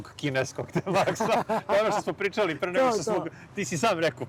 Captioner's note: laughs